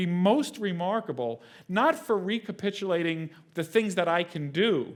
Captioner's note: none